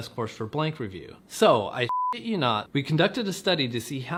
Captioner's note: beep